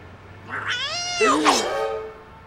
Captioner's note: meows